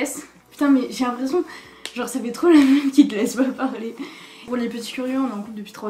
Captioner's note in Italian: ridere